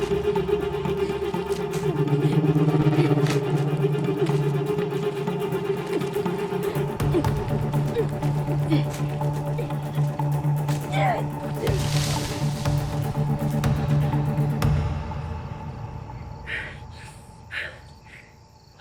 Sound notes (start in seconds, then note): 15.1 Jane pants